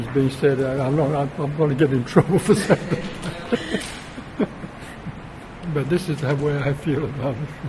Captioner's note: laughs